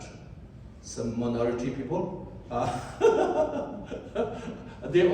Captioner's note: laughs